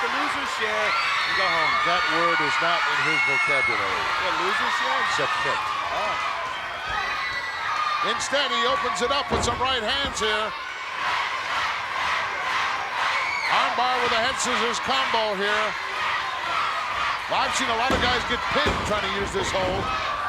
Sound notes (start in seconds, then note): 11.0 audience chanting